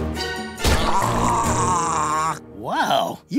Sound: groaning

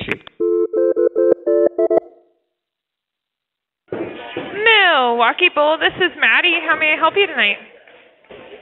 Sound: phone ringing

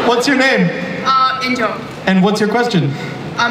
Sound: voiceover

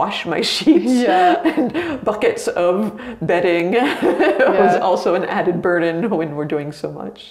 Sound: laughs

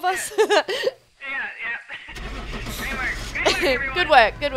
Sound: laugh

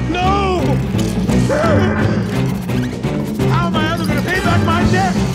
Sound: Dr. Facilier screams

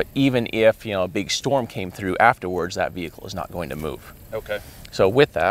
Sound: none

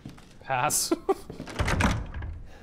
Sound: chuckles

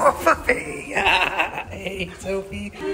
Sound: laughs

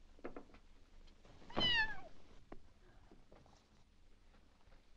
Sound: cat yelps

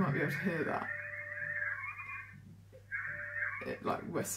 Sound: whistleing

